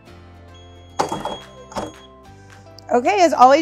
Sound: electronic beeping

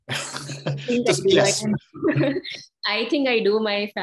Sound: panel laughs; laughs

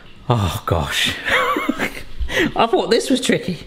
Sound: laughing

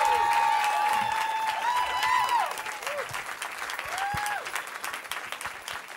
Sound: cheering

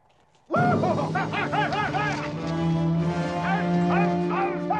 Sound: men yelling

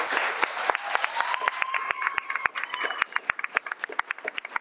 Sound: audience cheering

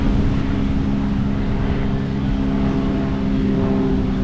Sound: A plane is passing

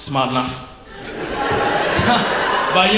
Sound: crowd laughs

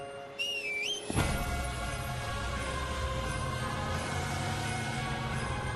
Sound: whistles

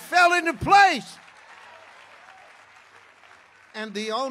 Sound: congregation clapping

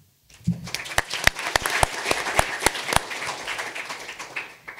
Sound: audience applauding

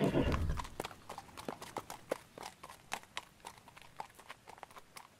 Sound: footsteps

